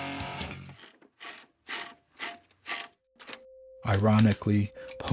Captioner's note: typewriter knob cranking